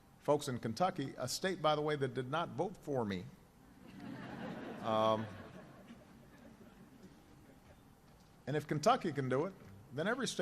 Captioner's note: laughter